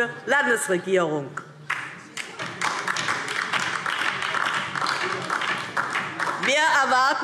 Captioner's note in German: Beifall DIE LINKE